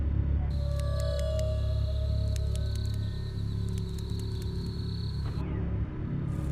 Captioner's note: light dramatic music; crickets chirping